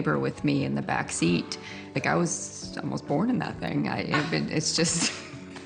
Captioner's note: laughter